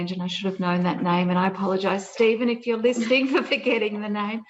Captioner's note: laughs